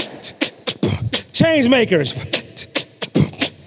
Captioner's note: beatboxing